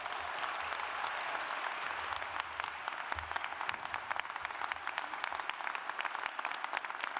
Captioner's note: cheers and applause